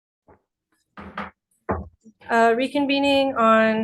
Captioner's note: gavel bangs